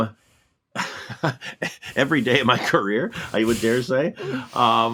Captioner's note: laughs